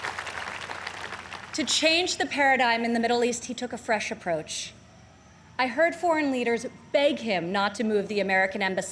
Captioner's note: applause